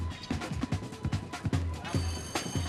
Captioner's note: school bell rings